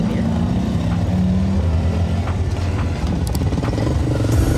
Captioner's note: bike engine roaring